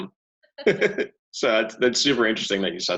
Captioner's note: both chuckling